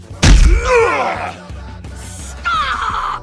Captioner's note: growls